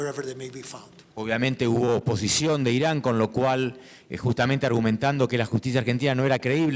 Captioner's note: speaking in foreign language